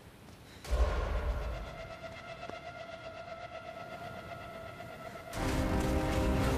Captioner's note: footsteps approaching; pensive music; dramatic music